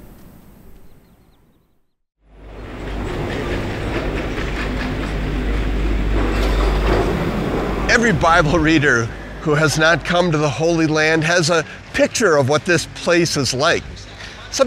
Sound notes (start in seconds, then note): 0.0 wind howling; 2.2 heavy machinery humming